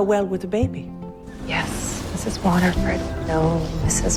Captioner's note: voiceover